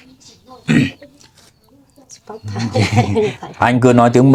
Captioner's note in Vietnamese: hắng giọng